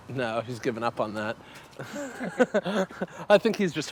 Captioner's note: both laughing